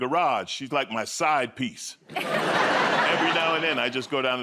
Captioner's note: laughter